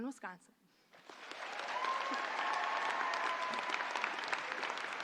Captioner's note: audience applauding